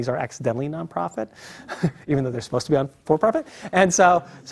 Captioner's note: laugh